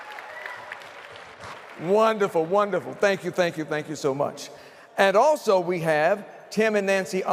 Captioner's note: applause